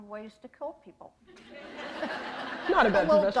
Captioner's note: laughter